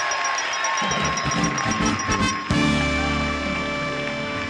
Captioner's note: ding ding